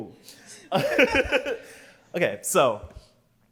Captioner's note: laughter